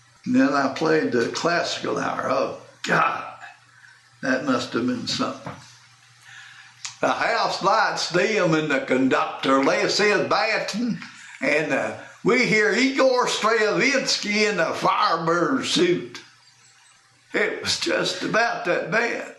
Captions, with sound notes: And then I played “The Classical Hour”, oh God, that must have been something. [using announcer voice] “The houselights dim and the conductor life is ‘batten’ and uh we hear Igor Stravinsky and 'The Firebird Suit'”. It was just about that bad.